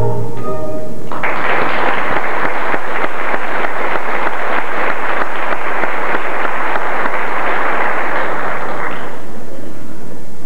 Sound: applause

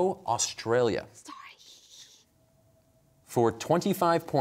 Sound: whispering

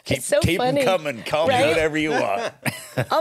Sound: laughs

